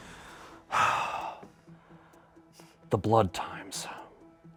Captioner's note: sighs